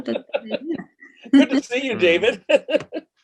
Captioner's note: laughs